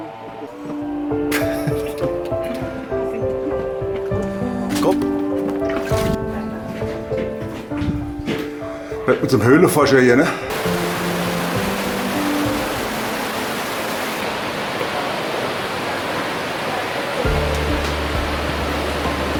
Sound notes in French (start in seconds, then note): 6.8 applaudissements